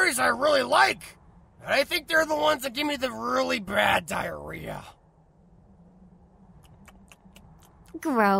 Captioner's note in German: Isst